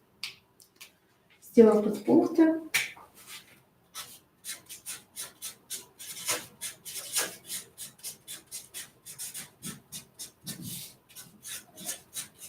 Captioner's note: scratching of a marker on paper